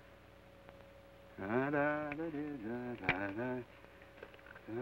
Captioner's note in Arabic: يدندن بلحن جميل